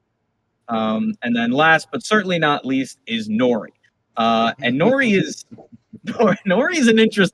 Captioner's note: laughs